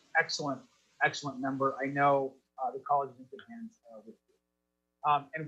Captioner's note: faintly speaking